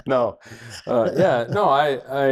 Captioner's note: doctors laugh